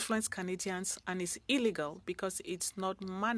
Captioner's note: speaking French